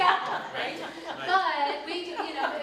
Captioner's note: audience laughs